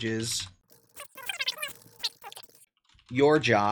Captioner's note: sped up audio